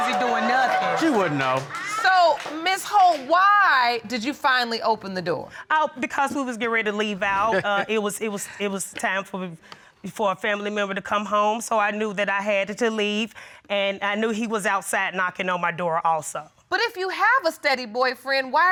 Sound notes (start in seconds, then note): 7.9 snickers; 8.7 stuttering